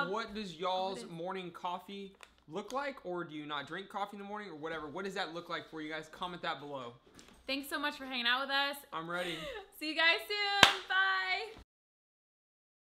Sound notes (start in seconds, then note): 9.2 laughing; 10.5 hands clap